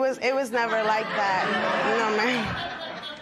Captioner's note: laughter